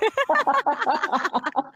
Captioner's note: laughing; laughs